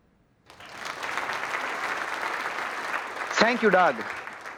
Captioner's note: applause